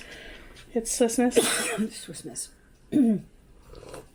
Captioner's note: mom coughs